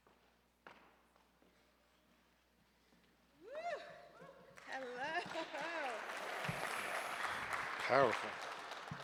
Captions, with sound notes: -(attendees cheering) -Hello. Powerful.